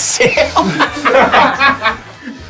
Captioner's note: risos